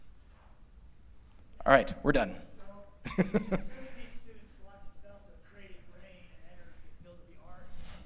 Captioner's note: laughter